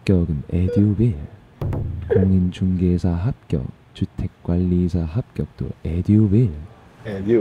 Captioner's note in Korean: 운율을 강조한 낭독